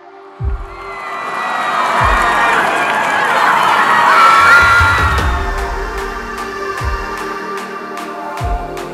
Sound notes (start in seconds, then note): 0.3 crowd cheering; 5.6 upbeat music